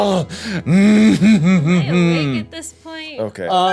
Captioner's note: laughing